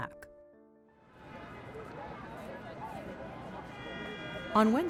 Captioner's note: traffic clamoring; people chattering